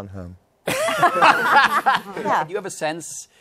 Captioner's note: laughter